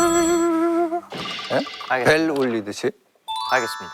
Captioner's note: amazed by the realistic bell sound